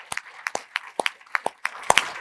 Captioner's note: applause